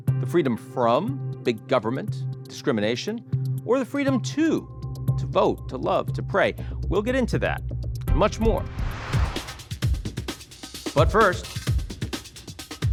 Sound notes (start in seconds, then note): 8.5 air whooshing; 9.5 funky upbeat music